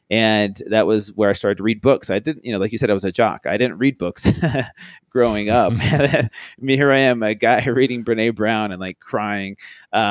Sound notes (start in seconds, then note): 5.2 laughs